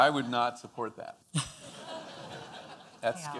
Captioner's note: audience laughing